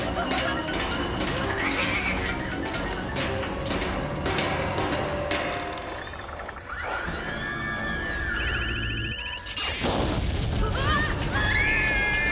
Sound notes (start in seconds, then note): 7.5 mechanical whirring